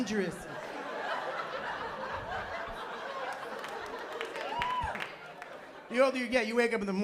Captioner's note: laughter